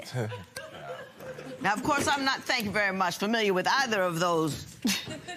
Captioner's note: laughter